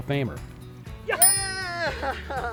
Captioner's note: laughing; ping